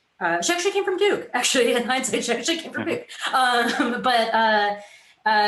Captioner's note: giggles